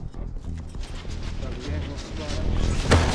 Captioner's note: clatter